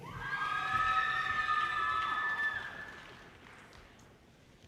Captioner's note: audience cheers and applause